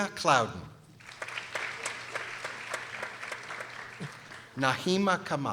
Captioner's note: people applauding